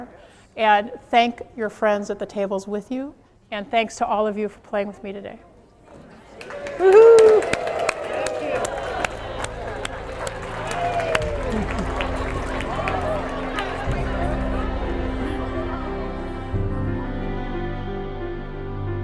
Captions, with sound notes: and thank your friends at the tables with you and thanks to all of you for playing with me today. [AUDIENCE CHEERING]